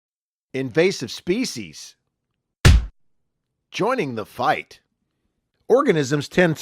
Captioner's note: stamp Sound